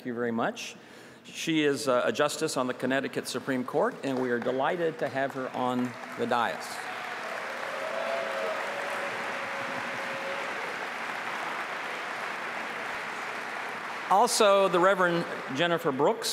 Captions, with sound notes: YOU'VE NEVER MET BEFORE, NINA ELGO. SHE'S OUR PARLIAMENTARIAN. THANK YOU SO MUCH. SHE IS A JUSTICE ON THE CONNECTICUT SUPREME COURT AND WE ARE DELIGHTED TO HAVE HER ON THE DAIS. [APPLAUSE]